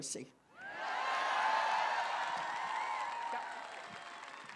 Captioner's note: applause